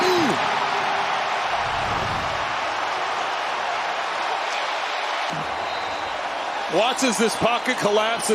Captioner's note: cheers and applause